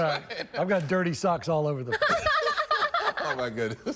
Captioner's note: laughter